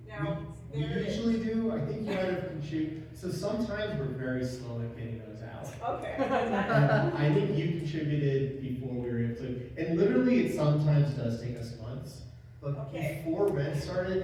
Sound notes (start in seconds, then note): 6.1 laugh